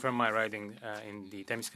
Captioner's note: speaking French